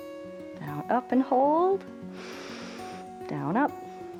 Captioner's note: inhales